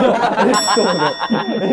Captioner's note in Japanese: 一同：笑い